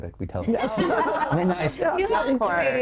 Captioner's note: all laughing